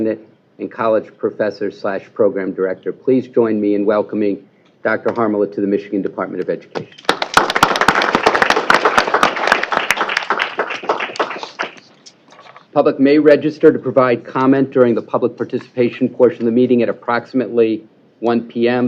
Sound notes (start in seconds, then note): 6.9 applause